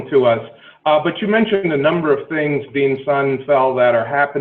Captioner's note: murmurs